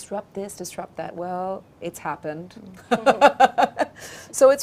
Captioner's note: laughing